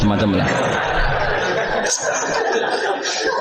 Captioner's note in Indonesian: tertawa